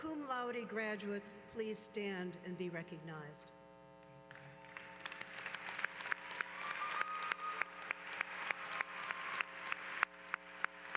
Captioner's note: applause